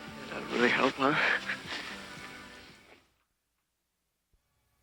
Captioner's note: chuckles